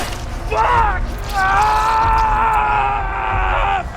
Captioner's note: Ian screaming